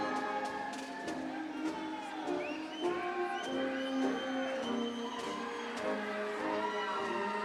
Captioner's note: audience cheering; upbeat ceremonial music